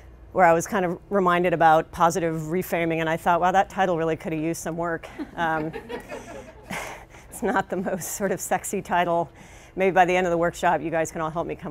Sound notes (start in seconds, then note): 5.1 laughter